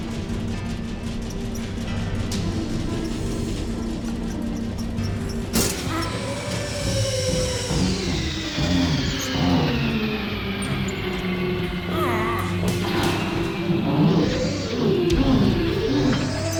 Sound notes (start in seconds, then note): 0.2 fan motor whirring; 6.0 Rick grunts; 6.8 fan motor whirring